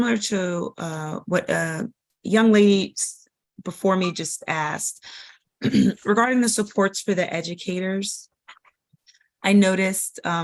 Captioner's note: cough